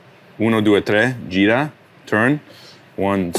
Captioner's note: speaks Italian